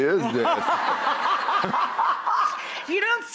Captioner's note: laughs